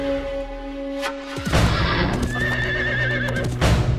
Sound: horse neighing

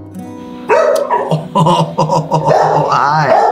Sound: dog barking

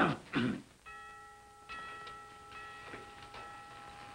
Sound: bell tolling

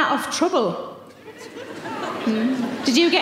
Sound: audience laughing

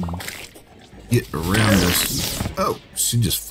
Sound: fart Sounds

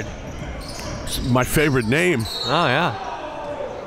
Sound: whistle blows

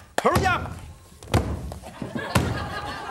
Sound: audience laughs; dough slams on counter

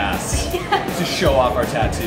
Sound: laughs

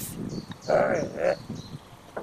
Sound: shocked grumble

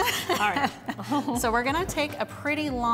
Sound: laughing

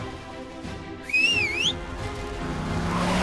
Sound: whistling

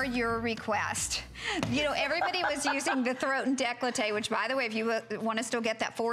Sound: laughter

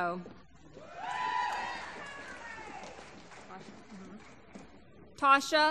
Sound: applause

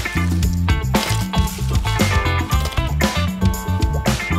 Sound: upbeat music; ice clinks

